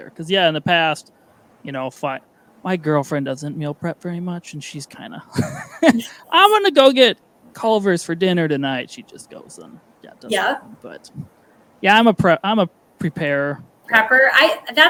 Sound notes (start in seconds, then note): 5.2 laughing